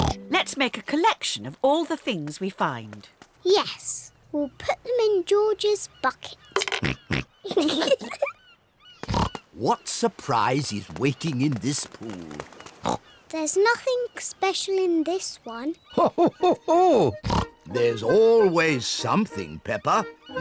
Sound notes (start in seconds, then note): 7.1 oinks; 7.4 both giggle